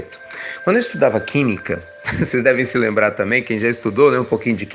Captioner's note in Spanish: risas